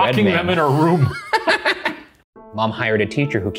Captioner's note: both laughing